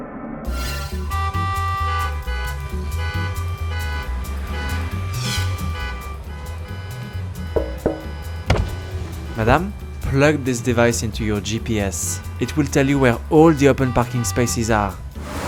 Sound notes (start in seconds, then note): 1.3 horns honking; 7.5 knocking